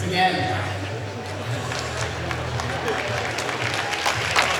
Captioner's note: crowd applauding